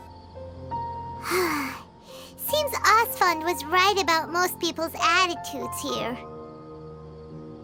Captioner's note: sigh